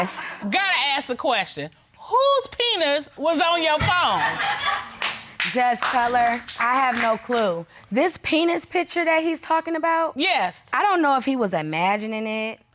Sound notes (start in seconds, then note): 4.0 audience laughing